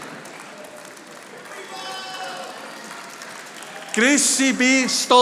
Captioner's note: audience applauding